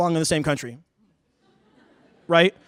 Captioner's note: laughter